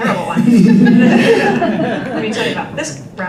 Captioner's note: group laughter